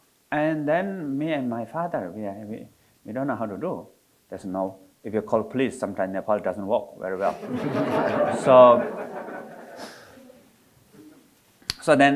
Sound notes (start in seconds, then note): 7.2 audience laughing